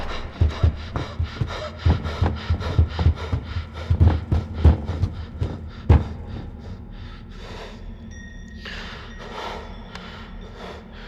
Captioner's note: Chris breathing heavily